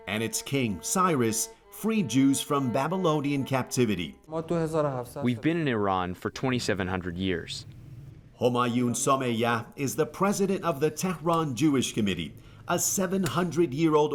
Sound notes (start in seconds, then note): 4.8 through translator